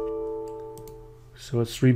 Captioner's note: soft dings